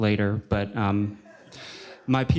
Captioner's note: laughter